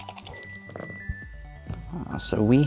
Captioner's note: dice rattling; dice rolling